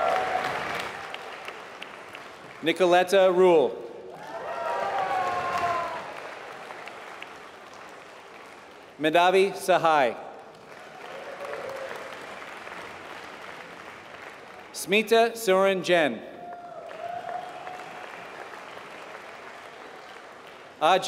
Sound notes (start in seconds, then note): 4.0 applause; 16.4 applause